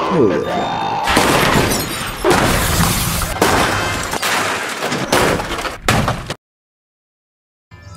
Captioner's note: loud crashing noises